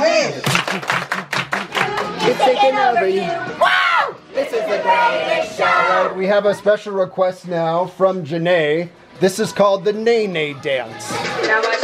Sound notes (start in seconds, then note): 0.0 crowd; 0.4 claps